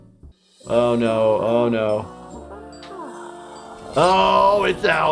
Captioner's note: Flippy moaning